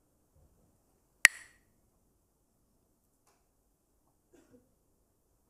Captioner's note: clacks the sticks